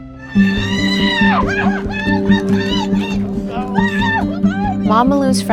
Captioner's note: screaming